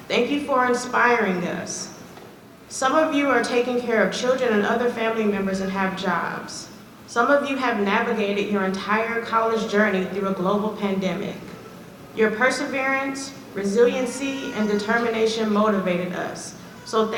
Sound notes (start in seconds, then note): none